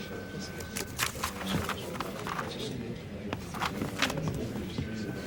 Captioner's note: overlapping chatter